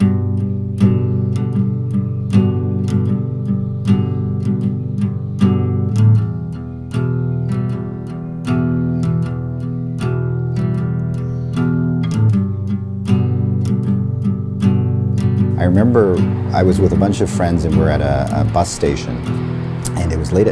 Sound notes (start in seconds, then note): 0.1 acoustic guitar; 15.4 light traffic